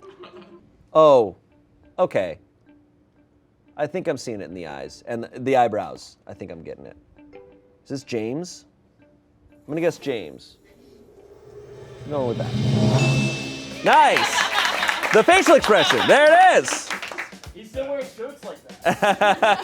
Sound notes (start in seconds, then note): 13.4 bell chimes